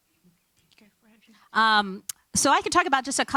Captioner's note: speaking faintly